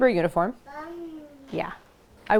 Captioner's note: baby noises